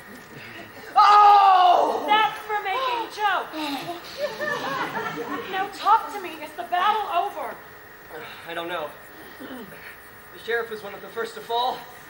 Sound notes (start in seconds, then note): 0.9 Robin screams in pain